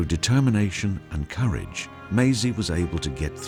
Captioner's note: voiceover